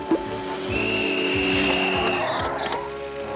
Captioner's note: whistles